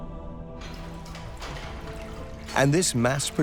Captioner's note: machinery clanking